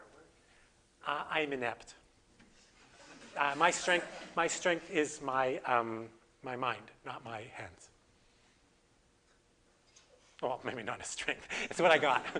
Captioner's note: audience: Laughter; audience: Laughter